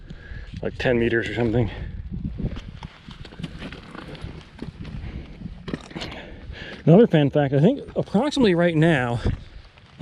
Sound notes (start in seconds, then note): 2.7 footsteps thumping